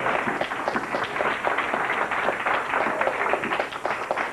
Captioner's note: applause